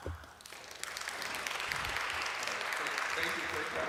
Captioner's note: applause